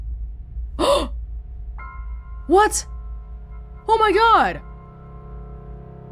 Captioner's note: gasps